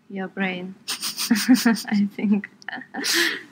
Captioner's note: laughs